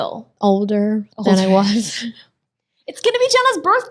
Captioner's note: chuckles